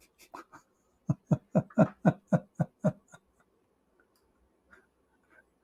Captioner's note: Ketawa